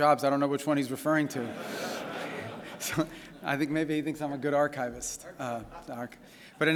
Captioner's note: laughter